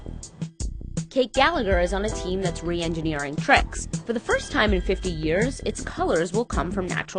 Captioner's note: voice-over